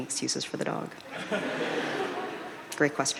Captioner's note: audience laughing